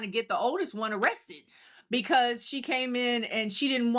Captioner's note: none